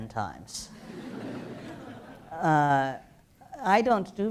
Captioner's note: laughter